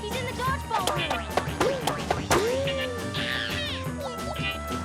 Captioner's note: ball bouncing off walls